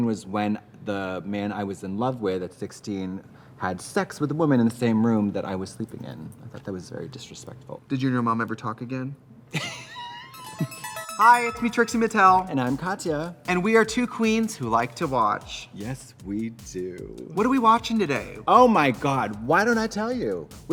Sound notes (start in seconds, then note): 9.2 fun music; 9.6 Katya laughs